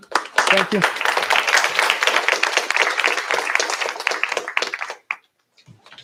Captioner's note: applause